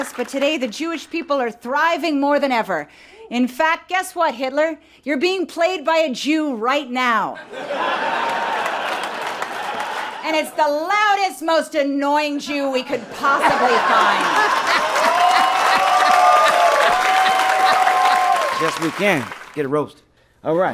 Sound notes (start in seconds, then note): 7.4 people laughing; 14.2 people laughing; 15.5 people cheering